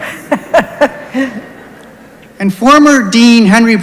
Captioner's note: laughs